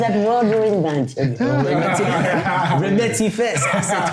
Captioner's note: laughing; speaking in French